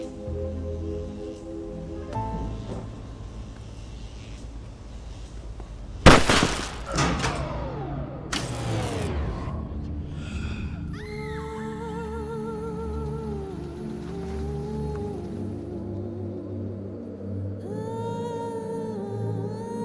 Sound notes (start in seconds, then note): 10.9 woman screaming in distance